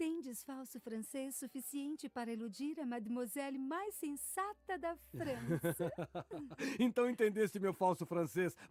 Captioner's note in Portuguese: risadas